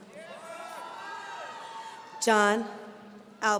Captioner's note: audience cheering